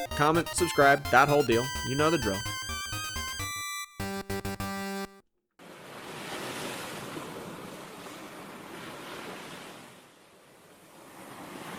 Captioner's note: sound of waves